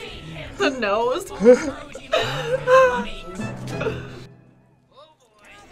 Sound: whimpers

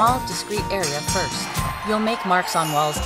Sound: boxing bell ringing; audience applauding

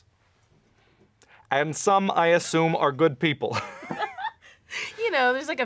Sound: laughter

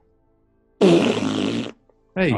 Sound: blows raspberry

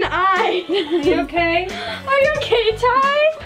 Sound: laughing

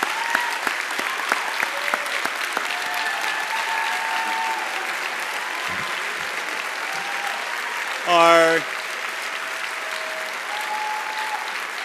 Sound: cheers and applause

